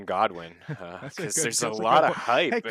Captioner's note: laughs